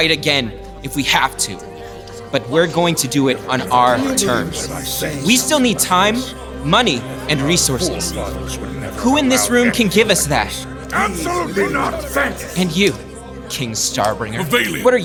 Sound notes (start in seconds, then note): 10.7 dissent and grumbles throughout room